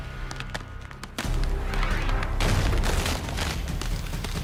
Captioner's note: crunching noises